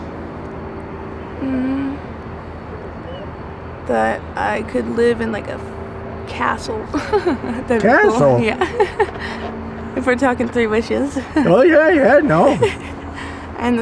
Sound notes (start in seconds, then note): 6.8 giggles